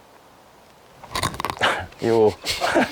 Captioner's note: all laughs